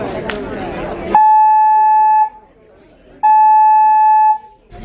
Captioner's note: alarm blaring